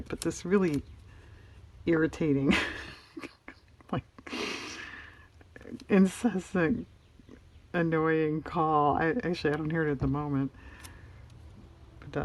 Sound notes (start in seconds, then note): 2.5 laughs